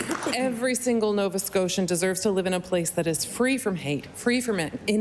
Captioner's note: applause